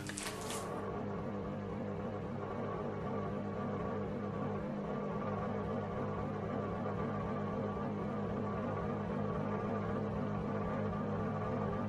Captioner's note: oven humming